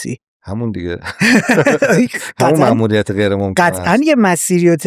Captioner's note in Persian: خنده